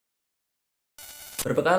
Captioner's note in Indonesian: suara interferensi